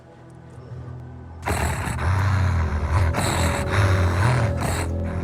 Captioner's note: dog growls